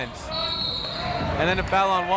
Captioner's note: whistle